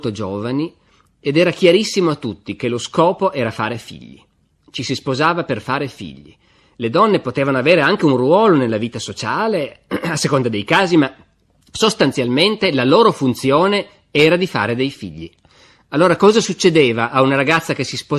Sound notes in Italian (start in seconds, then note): 9.8 schiarire la voce